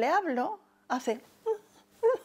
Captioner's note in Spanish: ríe